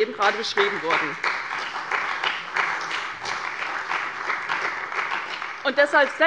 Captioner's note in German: Beifall bei der CDU und dem BÜNDNIS 90/DIE GRÜNEN